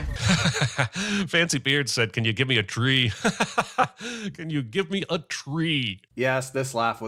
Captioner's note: laughs